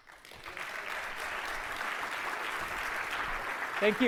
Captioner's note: applause